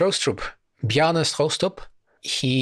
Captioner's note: in Danish